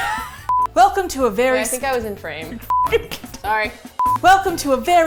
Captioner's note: laughs